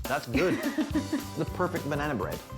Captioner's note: laughing